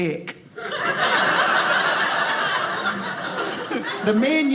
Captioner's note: audience laughing